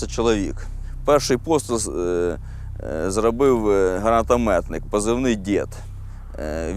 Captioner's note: in English